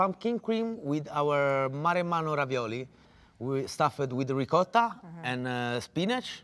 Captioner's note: speaking italian